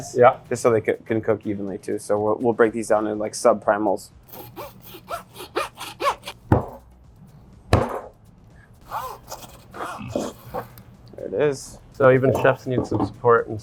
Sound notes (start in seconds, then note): 4.2 sawing bone; 6.7 cutting bone; 7.7 chopping bone; 8.8 sawing bone